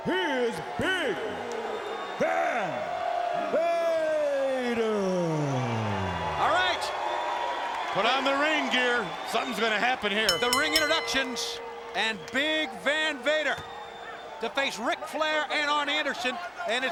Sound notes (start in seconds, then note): 4.8 crowd clamoring; 10.2 bell dinging